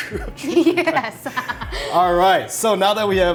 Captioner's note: laughs